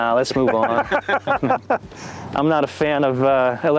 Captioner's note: laughs